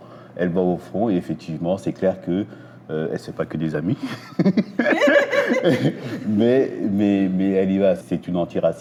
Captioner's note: laughs